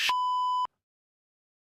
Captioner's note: beep